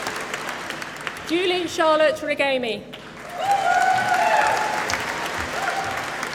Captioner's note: applause